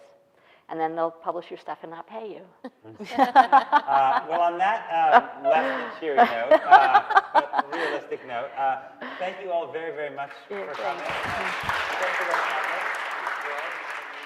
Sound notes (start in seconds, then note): 2.9 laughing; 10.3 audience applauds